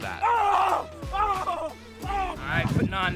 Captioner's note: man screaming